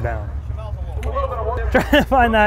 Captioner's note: laughs